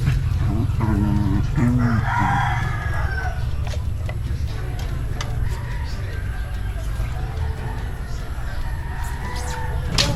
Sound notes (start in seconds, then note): 0.2 dog making noise; 2.8 chickens cuckling